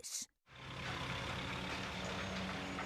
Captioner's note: engines grinding